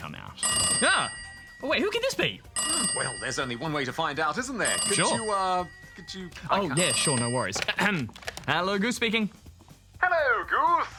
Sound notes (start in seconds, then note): 6.4 phone rings